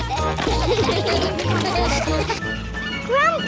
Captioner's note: all giggling; all laughing